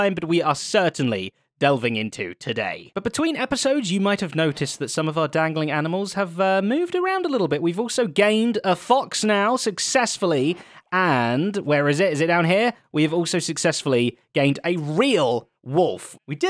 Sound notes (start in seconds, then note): none